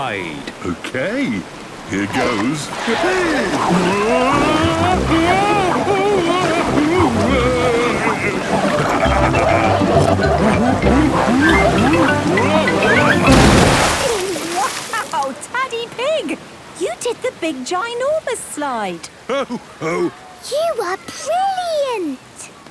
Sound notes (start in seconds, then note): 5.1 Daddy Pig shouting; 8.7 laughing, snorting